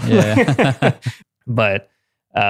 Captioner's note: laughing